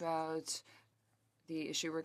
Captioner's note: speaking French